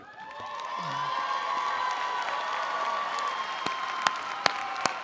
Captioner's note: attendees applauding